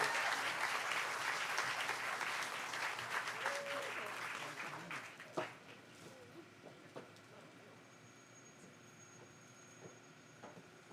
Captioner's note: cheers & applause